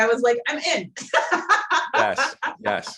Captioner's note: laughing